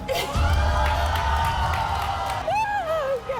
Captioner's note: audience yelling